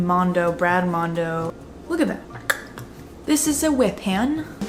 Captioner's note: clicks tongue